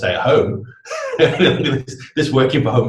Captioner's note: laughs